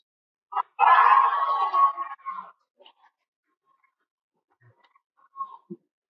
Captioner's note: cheering